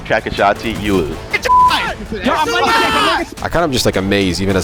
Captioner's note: yells